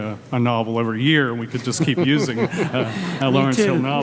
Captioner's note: laughs